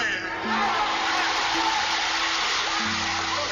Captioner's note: group cheers